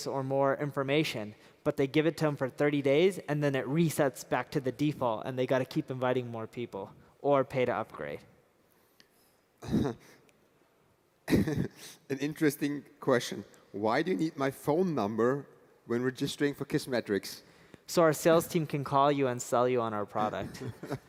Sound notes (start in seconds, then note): 11.3 laugh